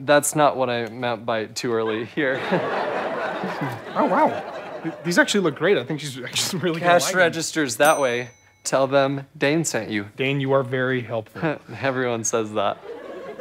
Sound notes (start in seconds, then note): 1.9 audience laughs; 12.8 audience chuckles